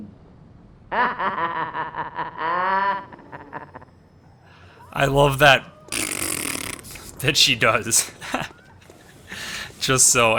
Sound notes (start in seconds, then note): 5.0 prttfff